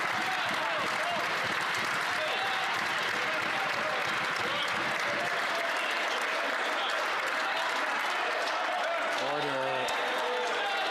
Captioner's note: some Applause